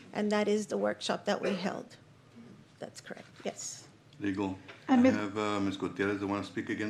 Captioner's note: clears throat